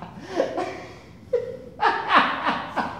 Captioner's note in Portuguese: risada